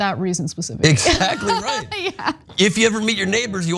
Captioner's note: laugh